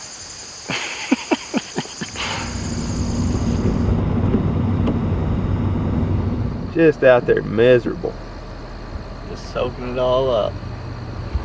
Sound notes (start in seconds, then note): 0.7 laughs; 1.9 driving noise; 10.8 road noises